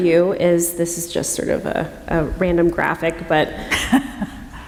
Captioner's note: laughter